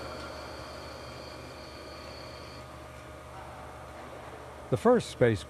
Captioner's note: machinery whirring